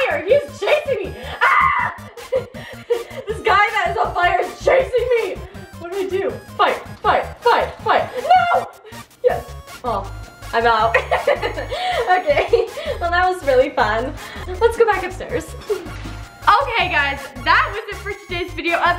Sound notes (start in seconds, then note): 10.9 laughs